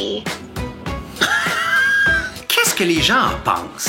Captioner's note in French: rires incrédules